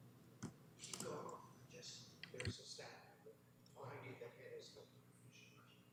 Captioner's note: comments off mic